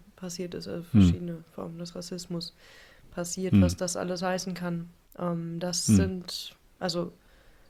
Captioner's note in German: räuspern